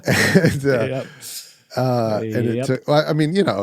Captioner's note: laughing